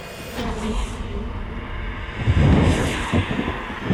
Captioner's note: faint whispering